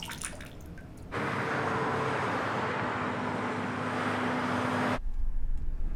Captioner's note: car engines revving